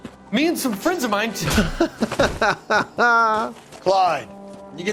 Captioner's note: laughs